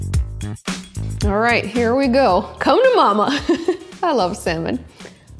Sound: laughing

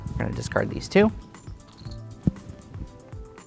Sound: game pieces rattling

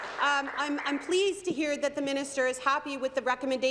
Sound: applause

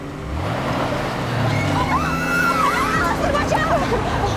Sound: all scream

